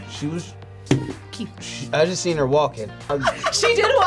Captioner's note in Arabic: يضحك